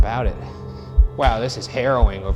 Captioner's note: heart beating